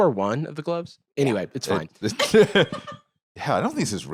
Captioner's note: laugh